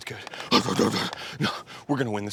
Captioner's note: george neighs with confidence